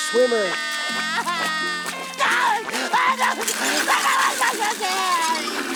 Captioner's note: crying